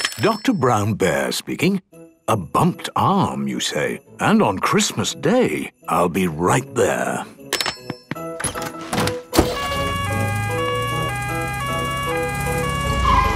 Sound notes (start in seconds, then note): 9.4 siren sounding